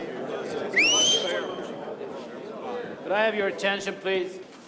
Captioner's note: whistling